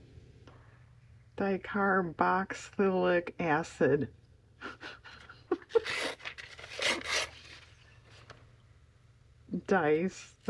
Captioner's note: laughs